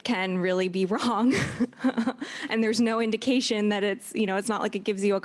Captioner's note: laughs